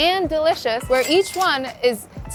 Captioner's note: chime ringing